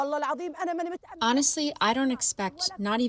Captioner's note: through translator